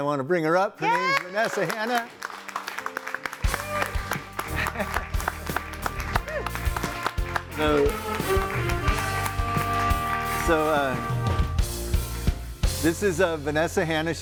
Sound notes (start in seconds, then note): 0.8 audience applauding; 2.2 gentle upbeat music